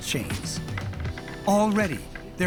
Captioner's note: creaking